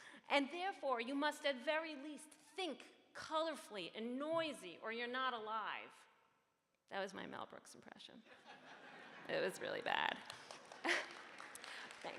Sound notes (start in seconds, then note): 8.3 audience laughs; 9.7 audience Claps